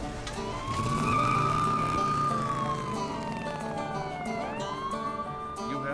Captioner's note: closes truck door; police sirens, tires screech